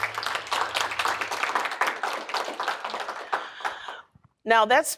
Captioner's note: applause